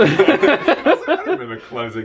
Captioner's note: they laugh